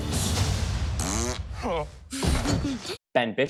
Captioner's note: blows a raspberry